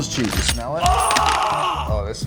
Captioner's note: man screams